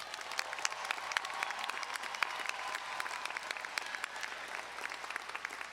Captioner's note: audience cheering and applauding